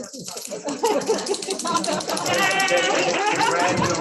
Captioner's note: laughter